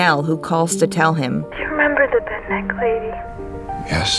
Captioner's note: Nell over the phone